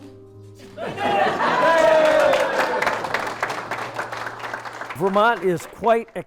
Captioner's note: cheering and clapping